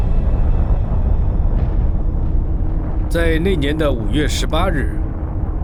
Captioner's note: explosion rumbling